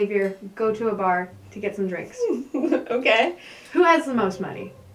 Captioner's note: laughing